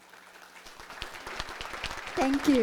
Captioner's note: audience applauding